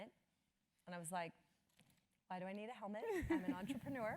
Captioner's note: laugh